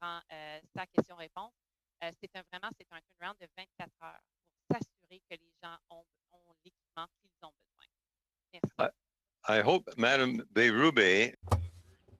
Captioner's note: speaking French